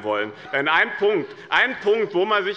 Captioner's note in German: Lachen bei der FDP - Vizepräsident Frank Lortz übernimmt den Vorsitz